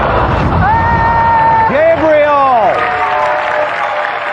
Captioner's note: yelling